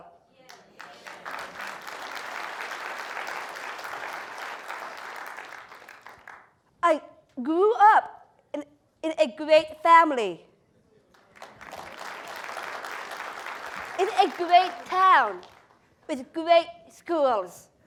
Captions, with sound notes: [APPLAUSE] >> I grew up in a great family. [APPLAUSE] >> In a great town, with great schools.